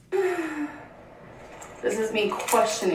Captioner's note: sighs